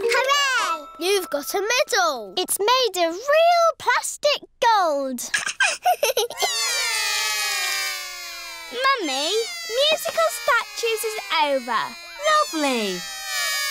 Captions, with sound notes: Hooray! You've got a medal. It's made of real plastic gold. (LAUGHS) (ALL CRY) Mummy, musical statues is over. Lovely.